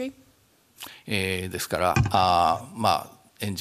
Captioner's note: speaking japanese